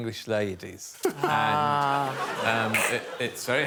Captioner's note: audience laughing